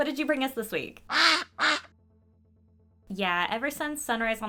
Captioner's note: quacks